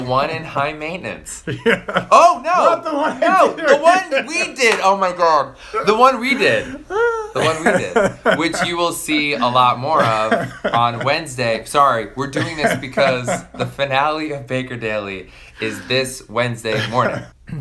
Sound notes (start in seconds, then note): 3.9 laughs